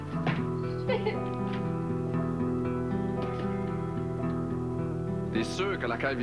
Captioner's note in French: Pleurs